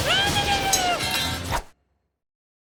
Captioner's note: clink